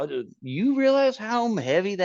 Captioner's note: grumbling